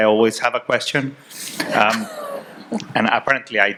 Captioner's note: audience chuckling